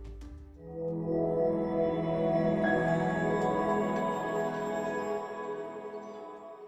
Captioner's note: swelling tone, high chime, fades out